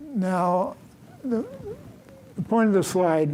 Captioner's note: none